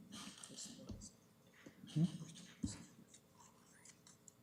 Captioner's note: whispering